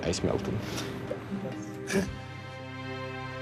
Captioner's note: chuckles